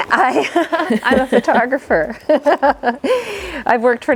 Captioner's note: both laugh; laughs